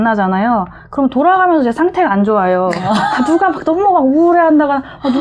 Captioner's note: laughter